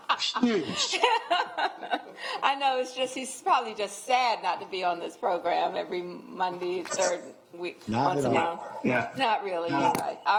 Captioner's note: laughter